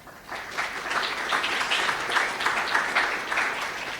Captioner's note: audience applauds